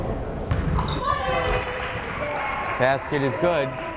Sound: crowd cheering

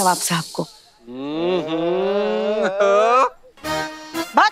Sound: giggling

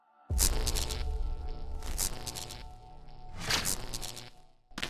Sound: electricity buzzing

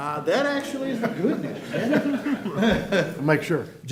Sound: laughter

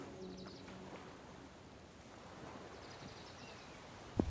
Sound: birds chipping

